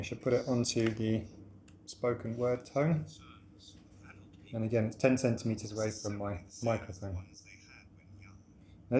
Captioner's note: podcast now playing through speaker